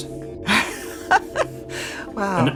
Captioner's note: laughing